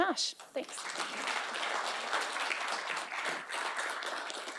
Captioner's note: clapping